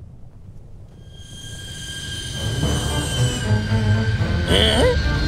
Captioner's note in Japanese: 飛来音